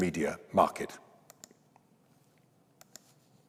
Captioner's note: mouse clicks